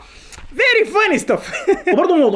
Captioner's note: laughter!